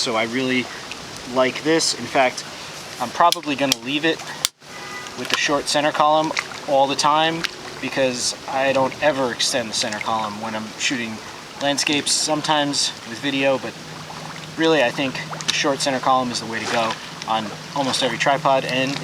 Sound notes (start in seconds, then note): 4.1 metal clicking; 4.6 car honking